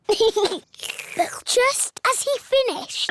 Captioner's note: giggles; slurps